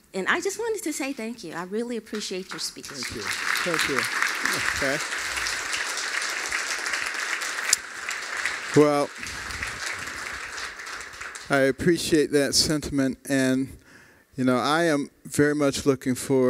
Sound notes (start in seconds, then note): 4.6 applause